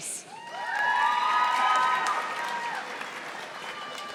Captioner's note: audience applauding